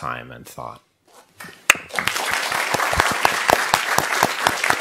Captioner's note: audience clapping